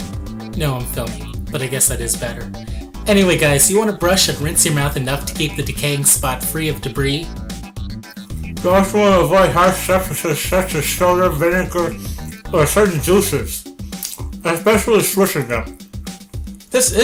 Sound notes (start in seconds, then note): 7.6 mouth full